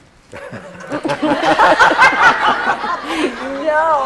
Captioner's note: laughter